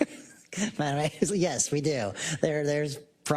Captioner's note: laugh